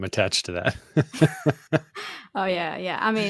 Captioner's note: laughs